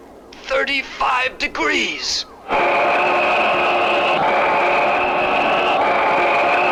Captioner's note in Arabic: هدير محركات الصواريخ